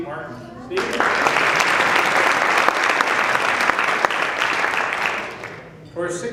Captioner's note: applause